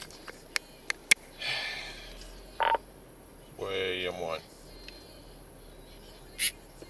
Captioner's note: sigh